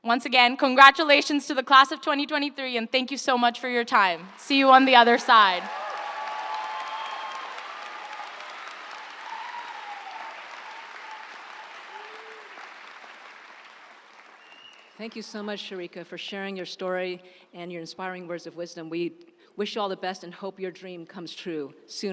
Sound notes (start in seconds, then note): 6.7 audience applauding; 6.7 audience cheering